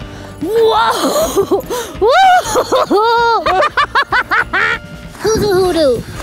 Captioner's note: laughs